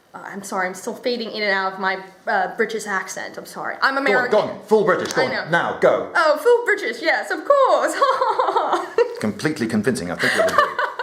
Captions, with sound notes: I'm sorry, I'm still fading in and out of my British accent. I'm sorry. I'm American! Go on. Full British, go on. Now. Go! Oh full British. Yes, of course! (posh laughter) Completely convincing, I think you'll agree.